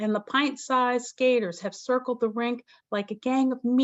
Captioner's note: none